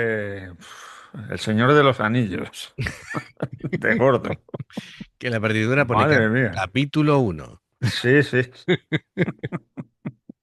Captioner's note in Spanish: risas